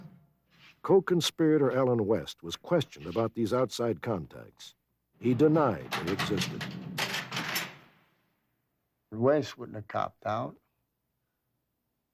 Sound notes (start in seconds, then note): 5.2 cell closing